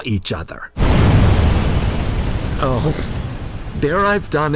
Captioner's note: explosion!